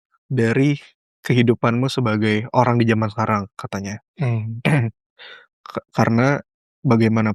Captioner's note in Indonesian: berdehem